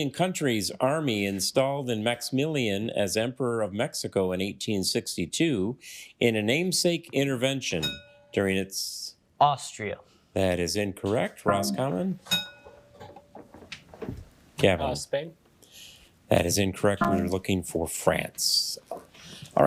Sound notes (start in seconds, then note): 7.8 bell dings; 11.5 bell dings